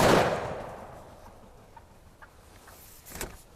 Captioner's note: gun shot